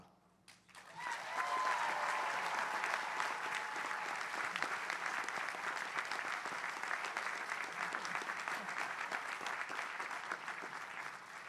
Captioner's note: applause